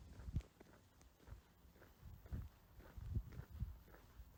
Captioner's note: distant footsteps